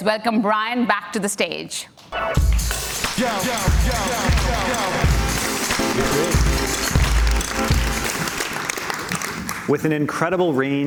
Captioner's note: cheers and Applause